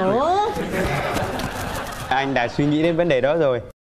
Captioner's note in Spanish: risas